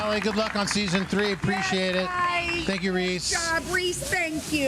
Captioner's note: applause